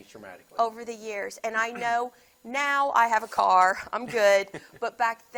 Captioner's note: laughs